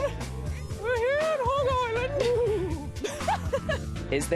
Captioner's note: high-pitched voice; laughs